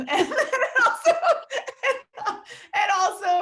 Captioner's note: laughing